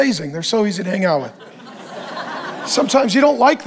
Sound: congregation laughs

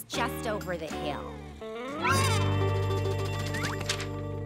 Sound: crying

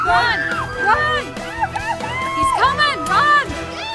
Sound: girls scream

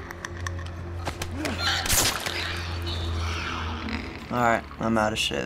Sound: Joel grunts; clicker becomes quiet

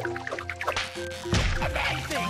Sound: gentle music; gum snapping

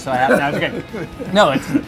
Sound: laughs

